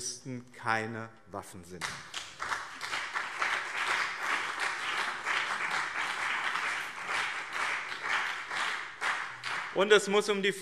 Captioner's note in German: Beifall BÜNDNIS 90/DIE GRÜNEN und CDU